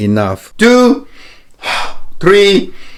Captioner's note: inhaling and exhaling